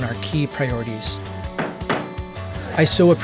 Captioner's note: gavel knocks